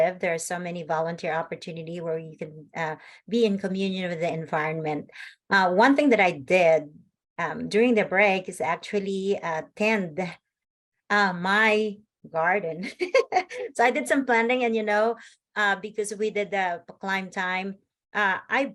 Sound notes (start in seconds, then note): 12.4 laughs